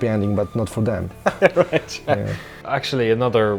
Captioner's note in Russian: смех